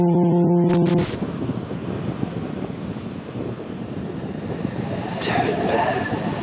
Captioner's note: windy phone recording of waves